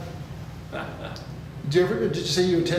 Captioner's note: chuckles